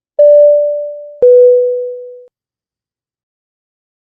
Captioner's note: deep beep sound